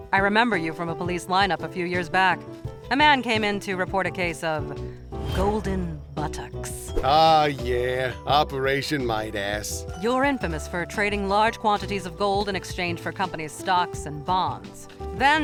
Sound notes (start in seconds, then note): none